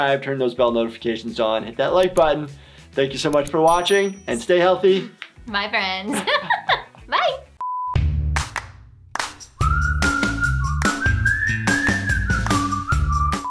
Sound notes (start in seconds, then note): 6.0 laughs; 7.6 beep; 9.1 upbeat music; 9.5 rhythmic whistling